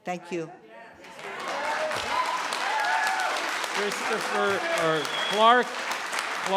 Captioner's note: cheering and applauding